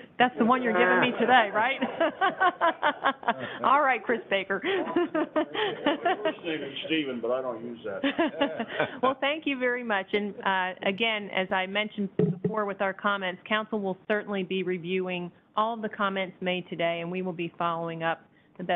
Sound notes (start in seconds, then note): 1.7 everyone laughing; 8.0 laughs